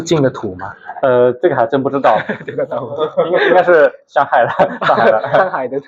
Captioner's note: laughs